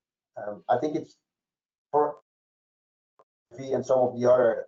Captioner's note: mic cracking